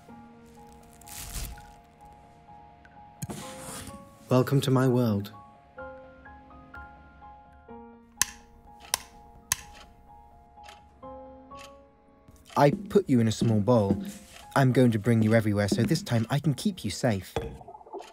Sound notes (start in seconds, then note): 0.5 plastic rustling; 6.0 soft piano music continues; 8.2 switch clicking; 12.3 footsteps; 12.4 clock ticking; 17.4 glass clinking